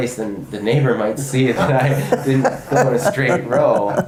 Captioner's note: laugh